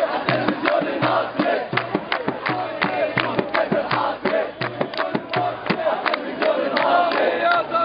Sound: chants

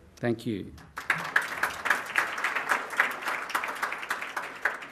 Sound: applause

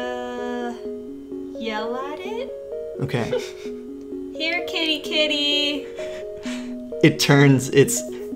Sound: laughs

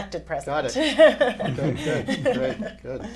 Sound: laughs

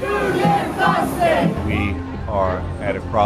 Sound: chant

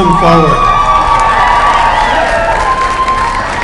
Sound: applause

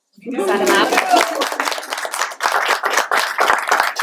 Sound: applause

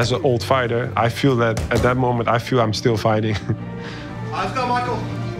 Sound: chuckles

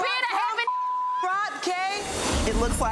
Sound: beep

